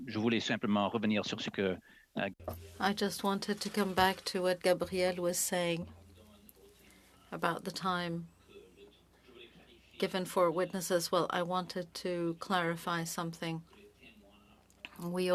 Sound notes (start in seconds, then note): 10.7 speaking French